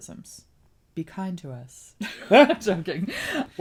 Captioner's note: laughs